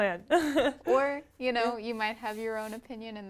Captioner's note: laugh